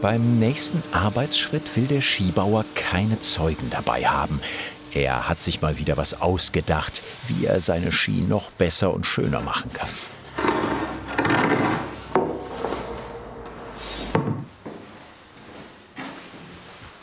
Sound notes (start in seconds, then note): 10.2 loud creaking